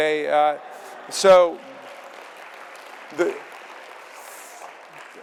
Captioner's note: audience laughing and applauding